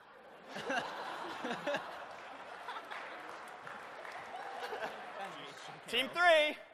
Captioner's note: laughter